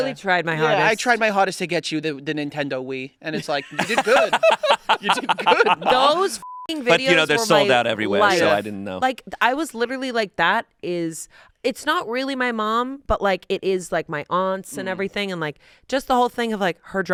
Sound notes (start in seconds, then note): 6.4 beep